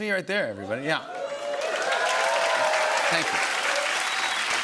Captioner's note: cheers and applause